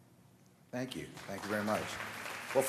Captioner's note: applause